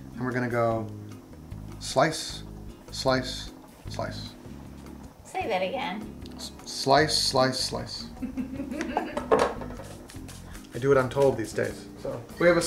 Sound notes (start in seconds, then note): 8.1 woman laughs